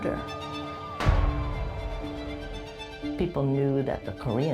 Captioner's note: police sirens